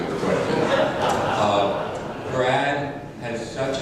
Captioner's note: crowd laughs